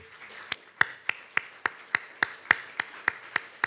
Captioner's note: audience applauds